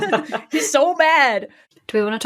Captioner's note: laugh